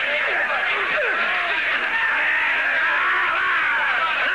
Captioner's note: shouting